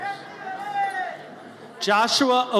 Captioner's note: audience member cheers